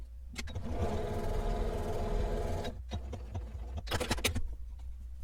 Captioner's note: sewing machine stitching